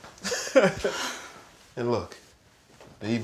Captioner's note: Reed laughing